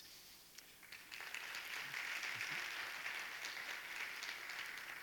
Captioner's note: audience applauding